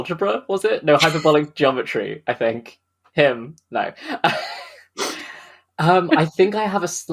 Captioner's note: laughs